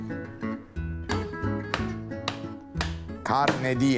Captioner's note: chopping board banging